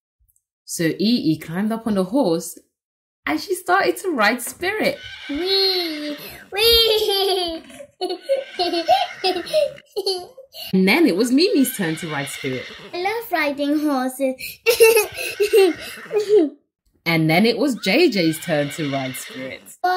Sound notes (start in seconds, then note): 4.7 laughing; 14.6 laughs